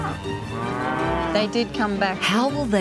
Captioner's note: cattle bellow